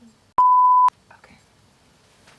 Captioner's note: beep; whispers